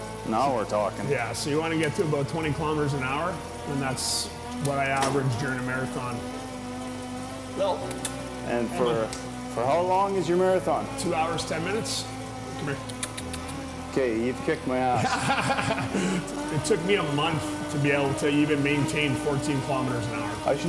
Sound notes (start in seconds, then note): 14.8 laughs